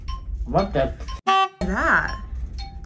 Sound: beep

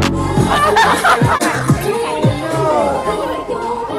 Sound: laughter

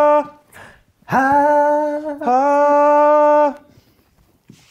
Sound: vocalize

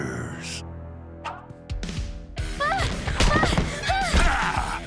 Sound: yelling

